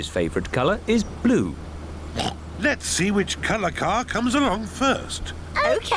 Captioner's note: oinks